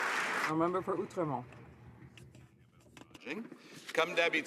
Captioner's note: some Applause